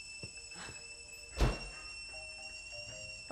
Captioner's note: door slams